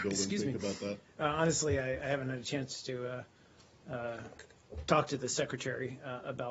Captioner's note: coughing